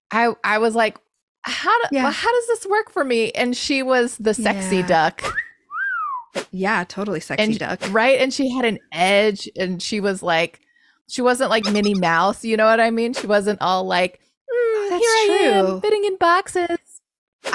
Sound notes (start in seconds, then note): 5.2 whistle; 11.5 mouse squeak